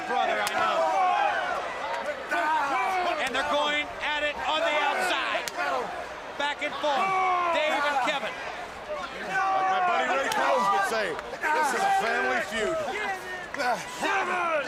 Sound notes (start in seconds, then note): 1.3 crowd chatter